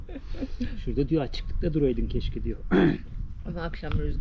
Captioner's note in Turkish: kahkaha